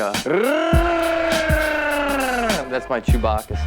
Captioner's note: Ashton mimicking Chewbacca roar